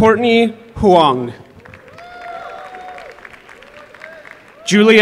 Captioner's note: applause